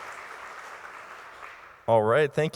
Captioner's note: crowd Applauding